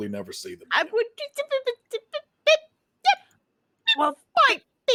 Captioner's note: stammering